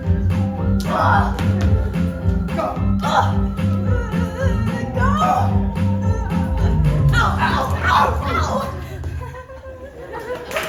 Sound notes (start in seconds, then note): 6.7 both wincing in pain; 10.4 applause